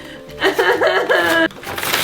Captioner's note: cries